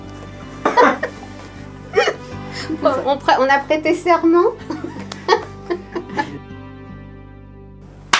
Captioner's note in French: Rires